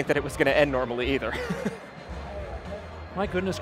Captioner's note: laughing